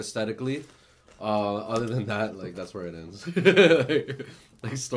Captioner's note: laughs